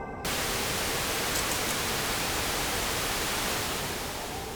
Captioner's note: static crackling